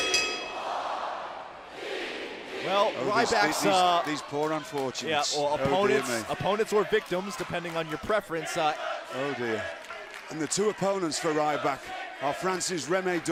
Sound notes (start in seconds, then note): 0.0 bell ringing